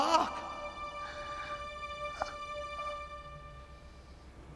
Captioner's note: gasps